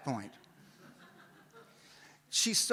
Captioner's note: audience laughs